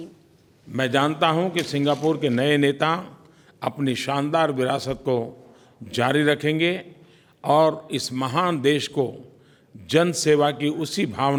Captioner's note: PM Modi speaks in Hindi